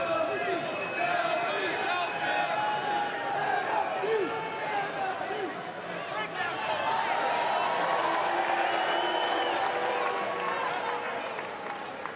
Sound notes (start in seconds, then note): 8.0 crowd chatter; 9.9 crowd cheering